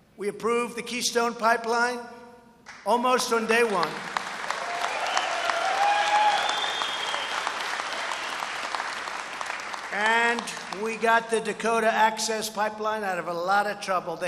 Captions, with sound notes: We approved the Keystone Pipeline almost on day one. (Applause) And we got the Dakota Access Pipeline out of a lot of trouble.